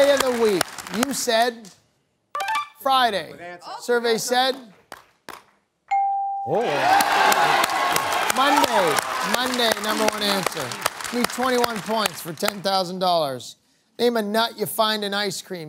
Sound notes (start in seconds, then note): 5.9 bell dings